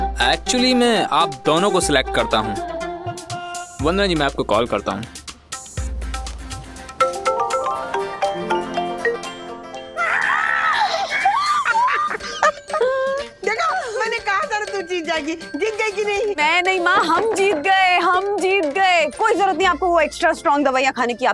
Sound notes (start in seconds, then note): 6.9 phone rings; 9.9 shouts; 10.6 laughs